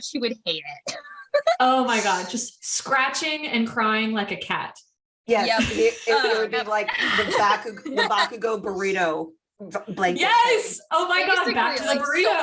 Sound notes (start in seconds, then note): 8.2 general agreement and amusement again